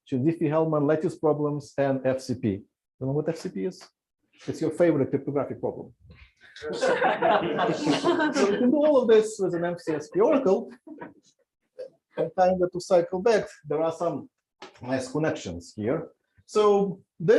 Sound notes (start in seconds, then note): 6.6 laughter